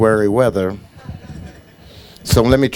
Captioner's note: audience laughing